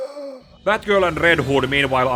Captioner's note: takes a Deep Breath